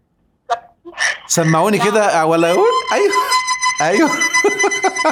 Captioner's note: laughs!